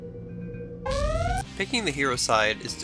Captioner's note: alarms